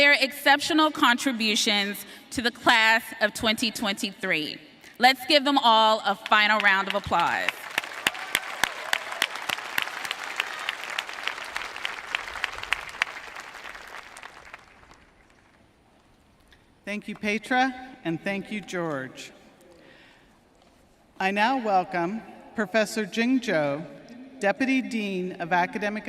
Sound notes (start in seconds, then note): 14.0 applause